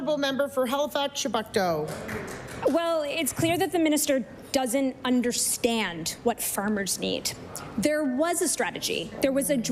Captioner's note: applause